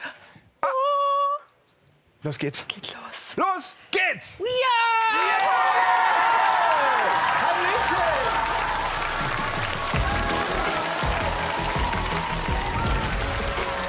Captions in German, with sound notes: Oh! Los geht es. Es geht los. Los! *tosender Applaus*